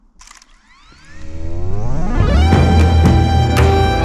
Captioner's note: drone whirring; gentle music